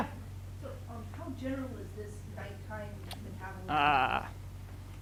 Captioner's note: woman mumbling